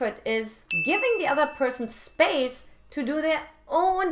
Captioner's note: bell dinging